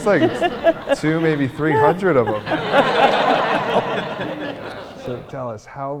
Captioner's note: audience laughing